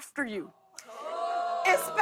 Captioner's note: audience ohs